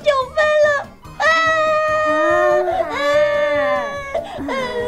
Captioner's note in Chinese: 哭声